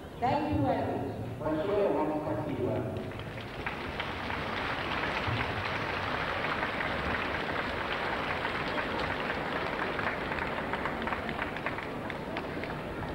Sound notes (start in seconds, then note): 2.9 applause